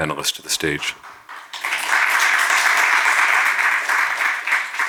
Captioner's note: audience clapping